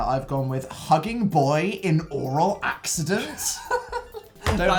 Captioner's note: laughs